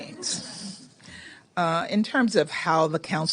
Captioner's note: laughter